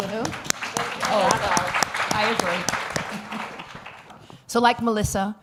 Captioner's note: applause